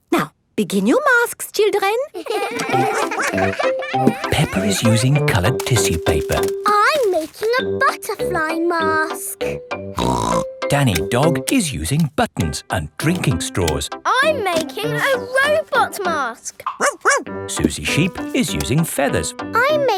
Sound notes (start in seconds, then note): 2.1 all giggling; 10.0 snorts; 16.7 barks